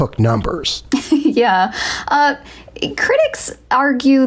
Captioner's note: chuckling